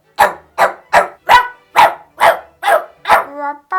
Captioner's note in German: helleres Bellen